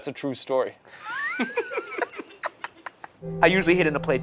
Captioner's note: laughing